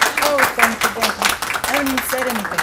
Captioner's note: applause